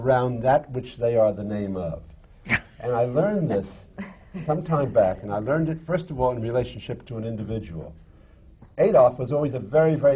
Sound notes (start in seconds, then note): 4.0 laugh